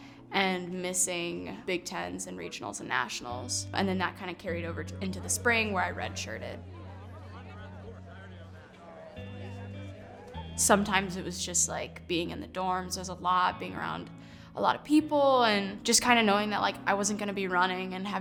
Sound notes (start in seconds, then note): 7.1 mellow music; 8.1 chattering